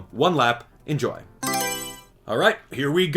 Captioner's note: Mario Selection Sound